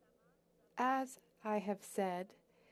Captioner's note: speaking French